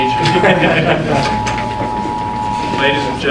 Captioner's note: audience laughing